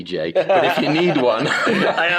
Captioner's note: laughs